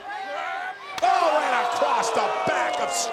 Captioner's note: crowd groaning